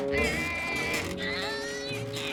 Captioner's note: Milo grunts